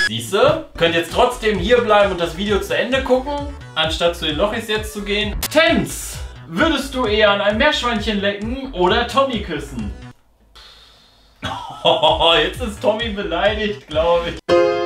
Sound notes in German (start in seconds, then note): 10.5 ausatmen